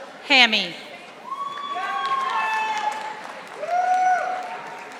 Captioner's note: audience applauding